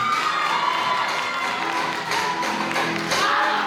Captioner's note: applause